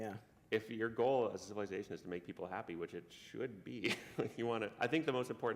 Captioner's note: chuckle